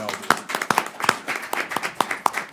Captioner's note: applause